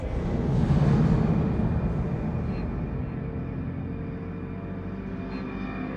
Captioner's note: sound of a motorbike